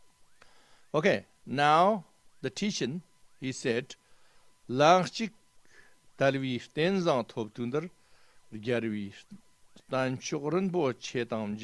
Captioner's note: tibetan